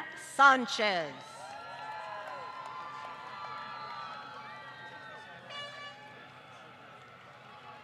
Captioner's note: applause